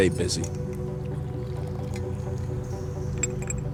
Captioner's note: pouring